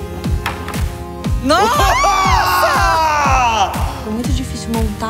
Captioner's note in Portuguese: gritando